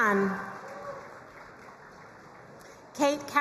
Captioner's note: crowd cheering and applauding